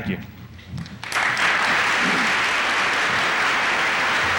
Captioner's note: applause